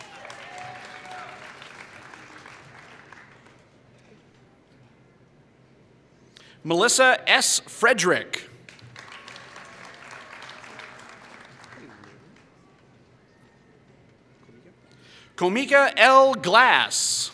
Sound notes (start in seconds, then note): 0.0 applause; 8.6 applause